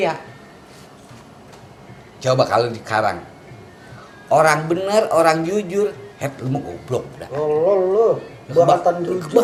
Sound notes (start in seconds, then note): 6.4 laugh